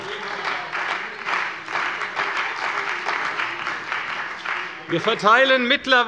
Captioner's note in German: Beifall bei der CDU und dem BÜNDNIS 90/DIE GRÜNEN